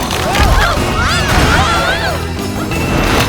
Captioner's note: screaming